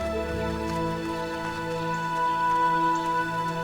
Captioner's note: birds chirping